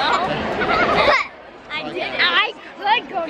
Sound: laughs

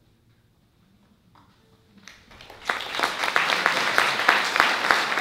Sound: applause

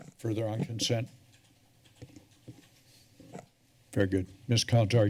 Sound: rustling sound

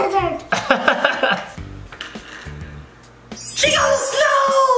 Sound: laughing loudly; magical music

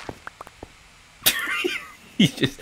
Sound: laughs

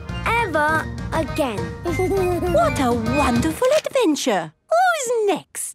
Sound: Danny giggles

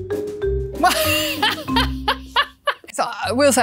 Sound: laughs

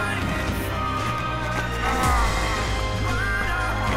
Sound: grunting

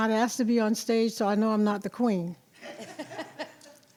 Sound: audience laughs

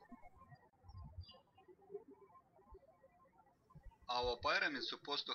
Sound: birds chirping

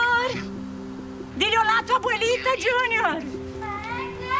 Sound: speaking Spanish

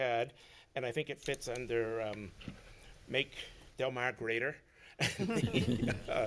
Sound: laughs

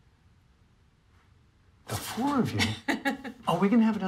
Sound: laughs

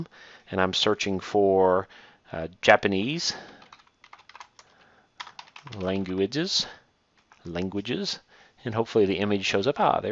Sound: typing

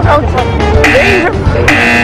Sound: buzzer

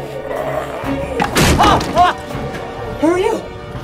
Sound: yelps

